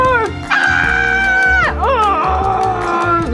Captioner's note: scream